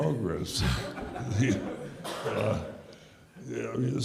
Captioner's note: audience laughs